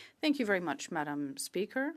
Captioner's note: speaking French